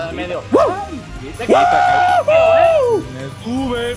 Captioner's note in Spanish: grita